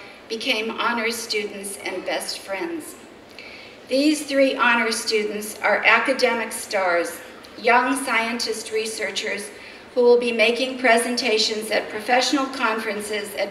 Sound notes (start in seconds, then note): none